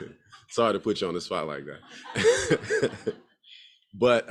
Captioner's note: laughs